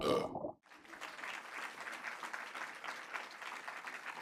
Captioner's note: audience applauds